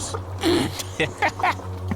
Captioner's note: laughter